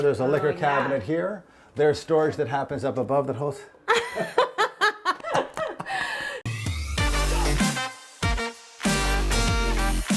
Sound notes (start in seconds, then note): 3.9 both laughing loudly; 6.4 upbeat music